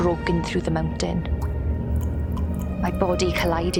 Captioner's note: water dripping